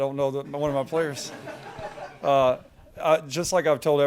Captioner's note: crowd laughing